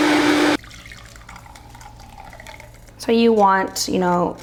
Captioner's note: blender whirring; liquid pouring